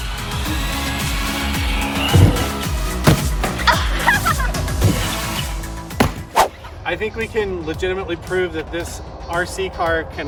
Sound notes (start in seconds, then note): 0.1 wheels accelerating; 1.9 thudding; 3.4 laughing; 5.1 thudding; 6.4 swooshing